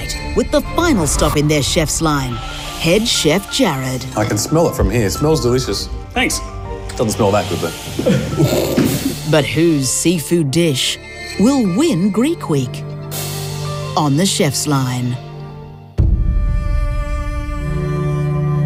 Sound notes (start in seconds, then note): 7.9 laughing; 15.9 tense music